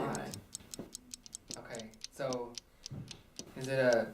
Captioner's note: clock ticks